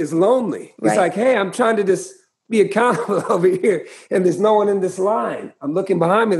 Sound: laughter

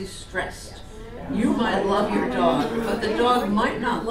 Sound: audience agreement

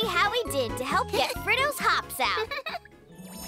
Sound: chuckles

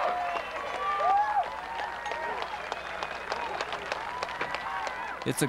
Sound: cheering and clapping

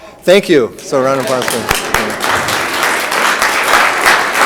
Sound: room applauds

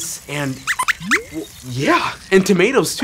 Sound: squeaks squeaks

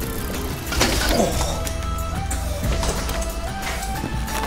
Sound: groans

